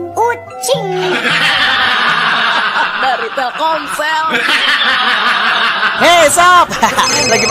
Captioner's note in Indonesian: tertawa